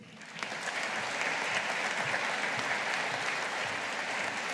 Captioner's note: audience applauding